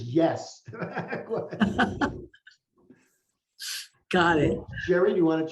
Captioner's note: laughs